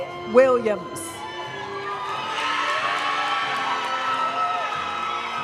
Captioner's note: audience cheering and applauding; graduation music